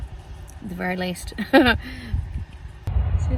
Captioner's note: scoffs